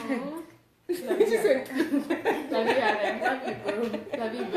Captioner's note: laughs